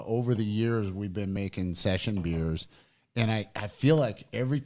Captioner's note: none